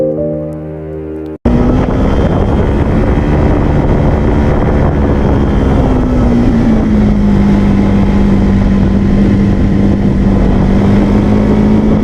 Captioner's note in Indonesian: suara speda motor